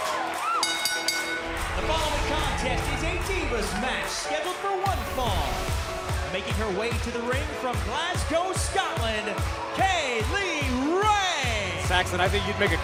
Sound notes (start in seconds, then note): 0.3 crowd cheering; 0.6 bell ringing